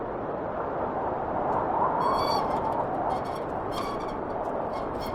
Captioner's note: wind whistling continues; wheelbarrow squeaking